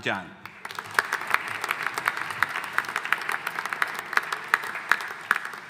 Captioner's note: audience applauding